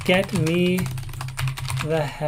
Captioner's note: keyboard keys clank